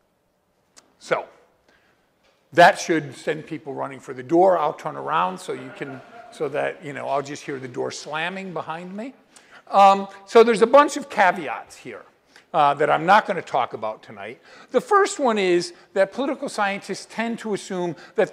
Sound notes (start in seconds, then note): 4.4 laughter